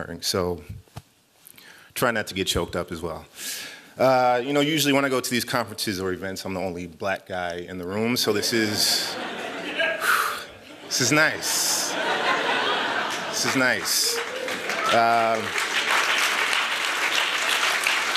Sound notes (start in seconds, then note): 10.5 laughter; 14.9 applause